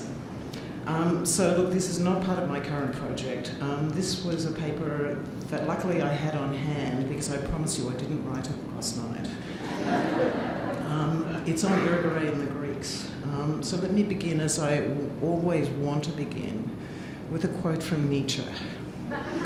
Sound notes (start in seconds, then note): 9.5 audience laughing